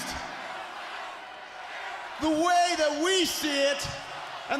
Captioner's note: crowd chatter